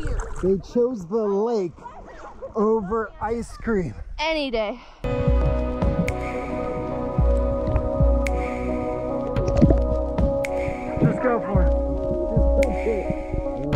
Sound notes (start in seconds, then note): 5.6 upbeat music; 10.3 water bubbling